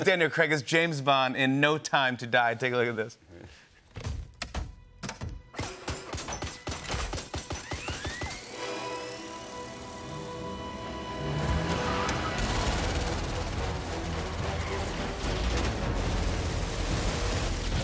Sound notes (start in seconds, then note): 5.2 whirring; 9.9 engine revs, tires squeal